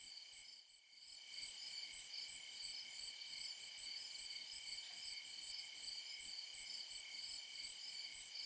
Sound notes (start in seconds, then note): 1.2 crickets chirping